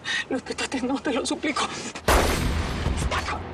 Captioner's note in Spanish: Disparo